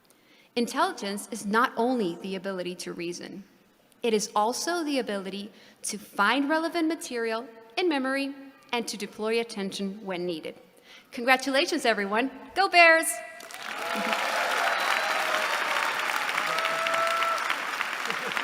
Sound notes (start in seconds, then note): 13.4 applause